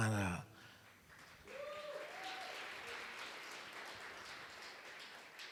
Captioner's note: applause